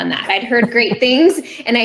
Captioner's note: laughing